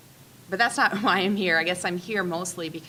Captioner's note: chuckling